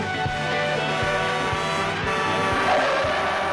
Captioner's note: horn blaring